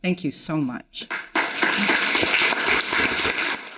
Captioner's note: audience applauding